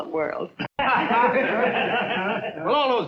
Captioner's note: laughing